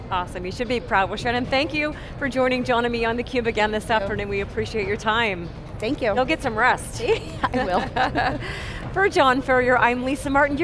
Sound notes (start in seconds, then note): 7.1 laughs